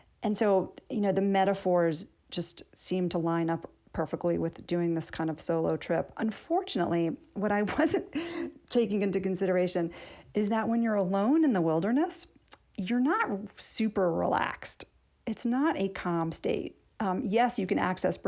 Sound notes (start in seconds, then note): 7.6 laughter